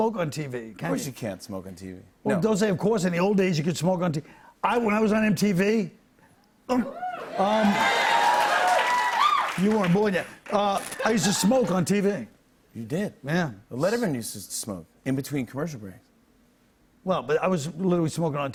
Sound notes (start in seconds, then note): 6.9 cheers and applause